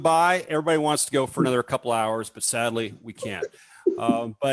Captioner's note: laughs